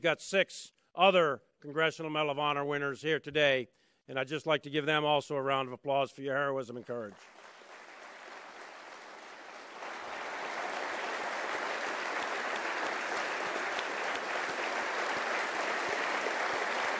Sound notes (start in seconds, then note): 8.2 applause